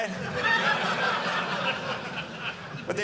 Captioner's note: audience laughing